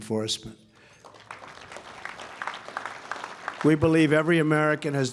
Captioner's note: applause